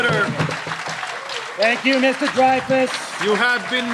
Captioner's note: laughter